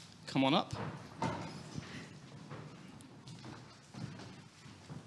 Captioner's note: footsteps plodding